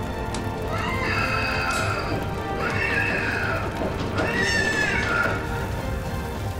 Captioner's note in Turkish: İnliyor